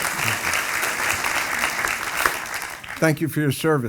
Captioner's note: audience applauding